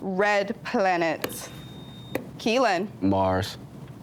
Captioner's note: buzzer beeps